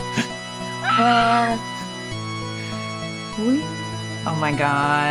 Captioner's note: squeals; laughs